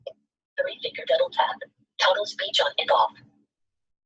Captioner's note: system voice